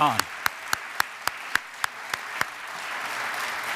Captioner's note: audience applauds